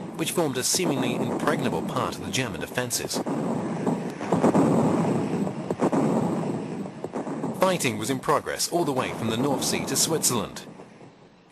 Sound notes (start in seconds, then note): 3.9 heavy artillery booming